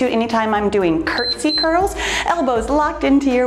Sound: timer beeps

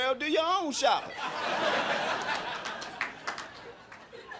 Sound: crowd laughing

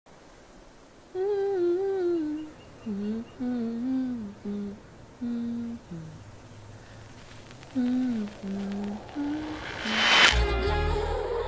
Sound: humming

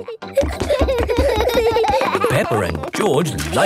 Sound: both giggling

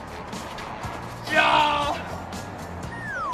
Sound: shouts again

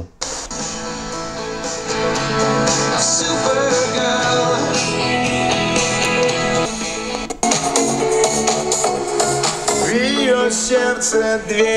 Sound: radio sounds

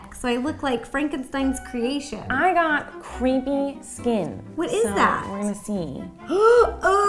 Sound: gasps

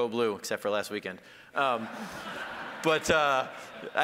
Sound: audience laughing

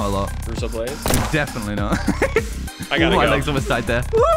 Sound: gunshot bangs; laughs

